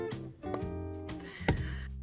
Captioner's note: popping sound